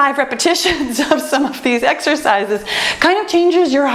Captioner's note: laughs